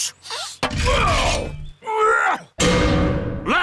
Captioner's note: grunting